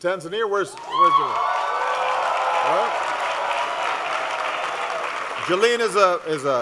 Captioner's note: applause